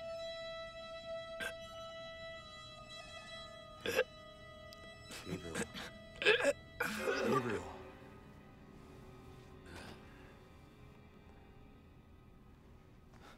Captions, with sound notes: (Gabriel coughs) - Gabriel. (dramatic music) Gabriel. (Gabriel grunts)